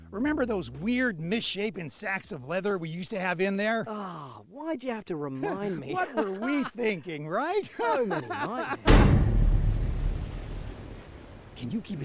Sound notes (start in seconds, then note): 8.8 slam